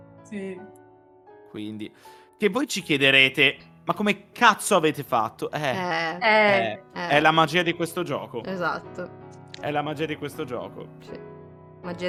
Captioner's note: agreeing knowingly in Italian sounds